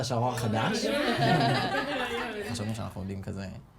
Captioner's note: all laughing